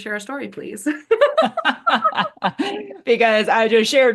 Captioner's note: both laughing